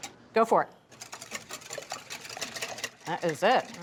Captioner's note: whisk rattling